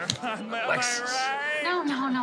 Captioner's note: snaps